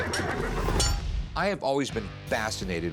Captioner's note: battle sounds